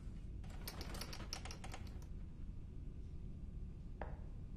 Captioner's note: RATTLlNG